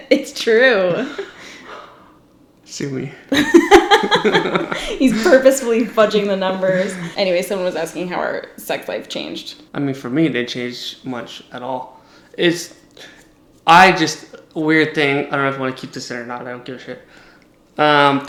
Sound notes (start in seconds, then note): 3.3 laughs